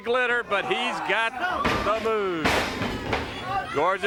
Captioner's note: body thudding